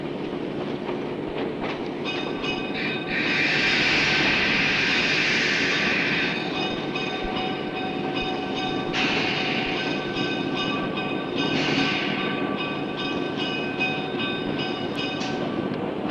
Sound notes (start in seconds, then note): 0.8 train crossing bells sounding; 15.9 sound of the train moving